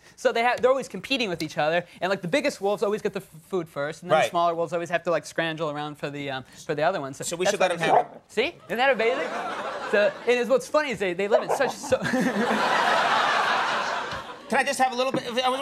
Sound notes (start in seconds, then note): 7.8 wolf barking; 11.3 wolf barking; 13.3 audience laughing